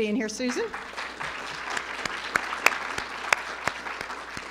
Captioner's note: audience applauding